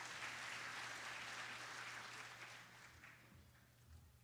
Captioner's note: applause